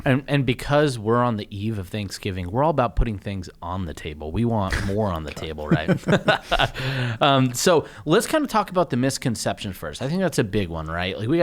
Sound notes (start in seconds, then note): 4.6 laughs